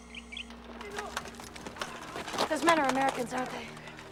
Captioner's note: distant Yelling in Korean